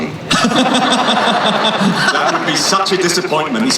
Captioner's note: laughing